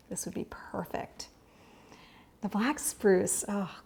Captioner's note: inhales